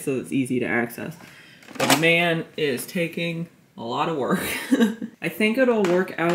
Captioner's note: laughs